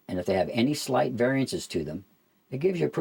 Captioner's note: none